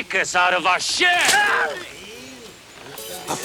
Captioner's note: Bruto screams